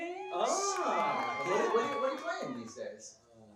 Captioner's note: applause